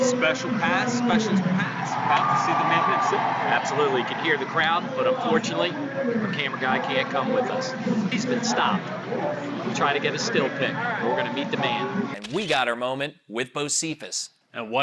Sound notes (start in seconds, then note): 2.6 crowd cheers